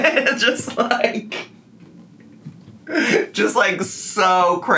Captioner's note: laughs